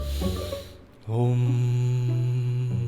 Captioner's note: breath-in